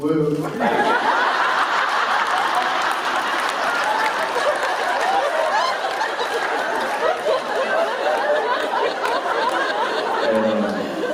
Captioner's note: laughter